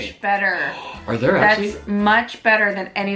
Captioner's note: gasps